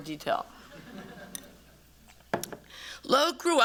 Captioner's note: audience laughter